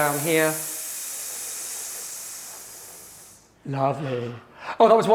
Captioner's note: students hissing